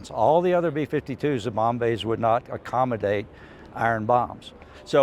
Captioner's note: none